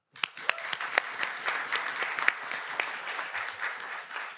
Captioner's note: audience applauds